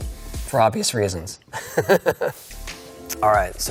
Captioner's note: laughing